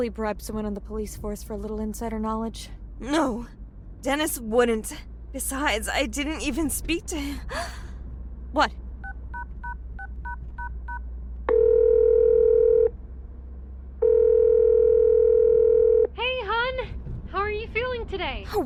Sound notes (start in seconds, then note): 7.4 gasps; 11.5 phone dailing & ringing